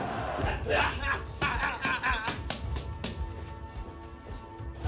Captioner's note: Ricky grunting